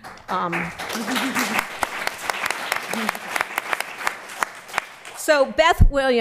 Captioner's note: applause